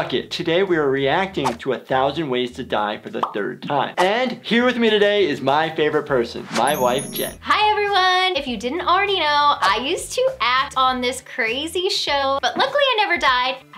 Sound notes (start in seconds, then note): 6.6 magical chiming